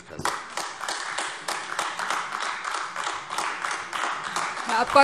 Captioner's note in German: Beifall AfD